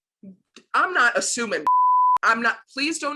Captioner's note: beep